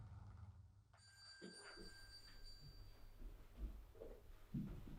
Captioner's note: bell rings